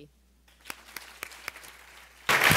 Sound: applause

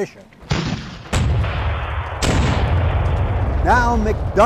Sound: cannons firing

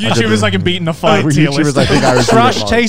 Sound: group chattering

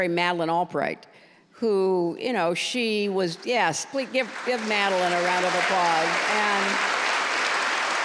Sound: applause

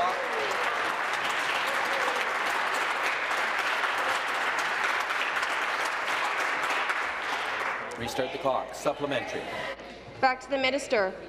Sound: applause

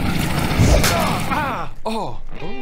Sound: crash

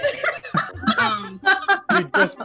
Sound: laughter

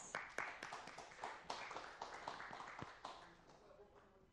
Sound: applause

